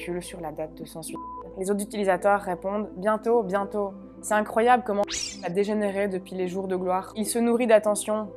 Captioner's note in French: bip